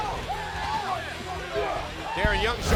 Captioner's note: crowd cheering